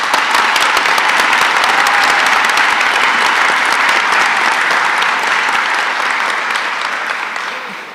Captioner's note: applause